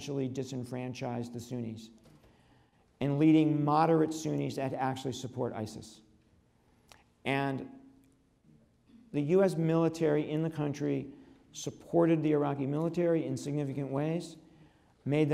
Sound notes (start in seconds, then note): none